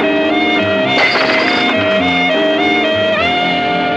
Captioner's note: shattering